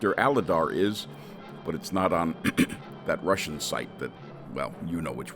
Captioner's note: clears throat